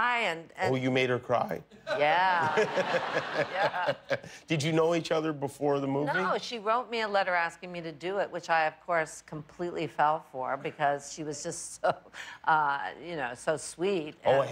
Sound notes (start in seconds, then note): 1.8 laughter